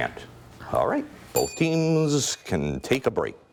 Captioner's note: bell ringing